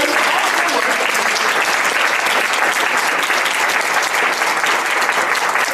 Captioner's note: audience applauds